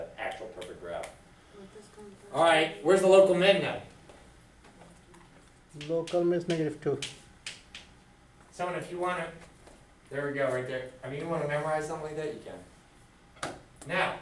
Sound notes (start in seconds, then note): 5.9 voiceover